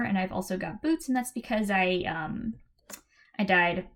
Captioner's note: click